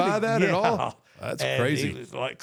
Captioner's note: chuckles